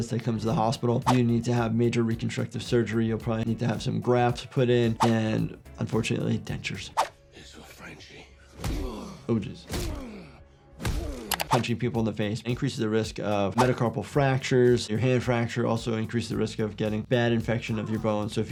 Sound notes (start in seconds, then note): 9.7 fist pounding